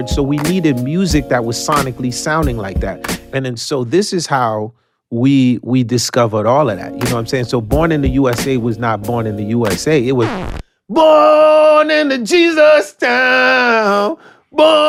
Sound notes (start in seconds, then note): 9.7 record scratch